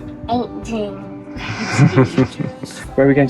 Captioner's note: laughing